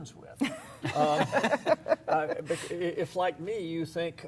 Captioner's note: laughs